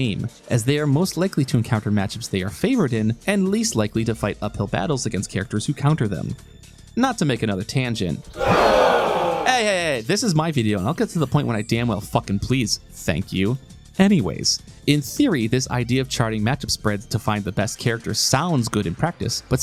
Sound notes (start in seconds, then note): 8.3 crowd groaning